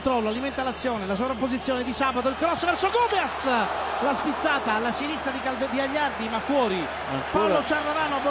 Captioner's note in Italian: Applauso